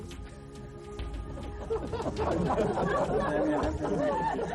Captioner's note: people laughing